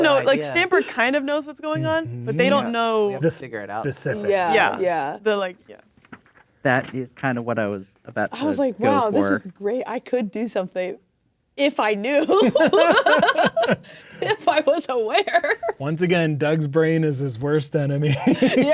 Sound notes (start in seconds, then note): 12.3 laughing; 18.2 laughing